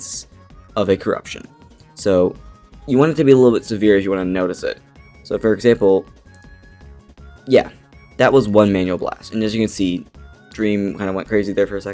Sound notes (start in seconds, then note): 6.3 click